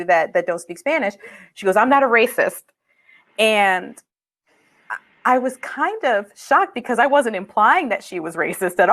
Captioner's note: speaking spanish